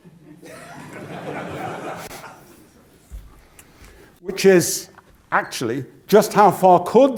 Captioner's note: laugh